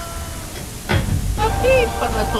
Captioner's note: door close